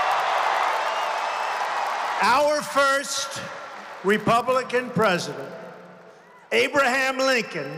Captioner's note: applause